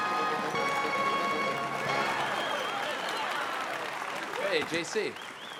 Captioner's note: audience applauding